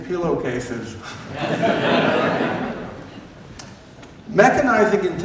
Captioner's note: laughter